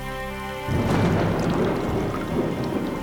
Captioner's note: thunderclaps